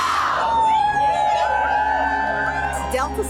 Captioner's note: protesters cheer